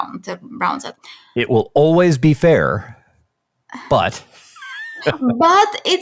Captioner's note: laughs